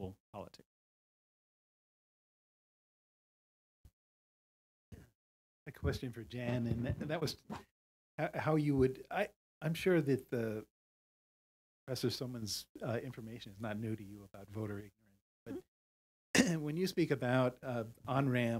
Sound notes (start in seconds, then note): 16.3 cough